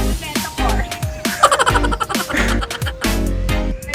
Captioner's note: laughing SFX